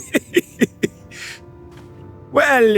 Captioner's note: laughter